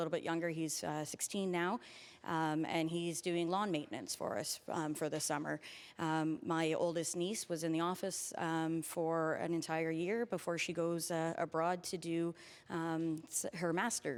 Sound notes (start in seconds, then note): none